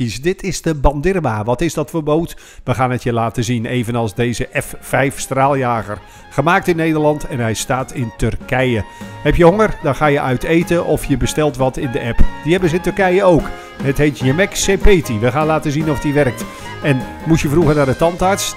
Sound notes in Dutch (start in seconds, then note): 0.3 Voiceover